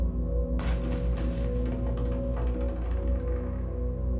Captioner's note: objects clattering; ominous music continuing